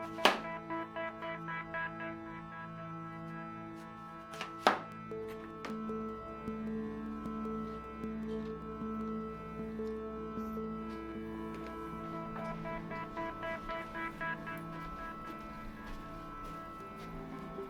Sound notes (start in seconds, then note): 0.3 cutting board knocking; 11.4 footsteps shuffling